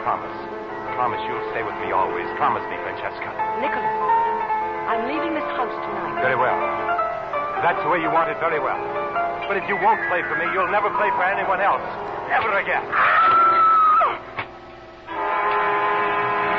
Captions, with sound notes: Promise. Promise you'll stay with me always. Promise me, Fantasica." "Nicholas, I'm leaving this house tonight." "Very well. That's the way you want it very well. But if you won't play for me, you'll never play for anyone else. Ever again." [screams]